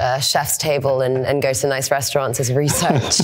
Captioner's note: laughing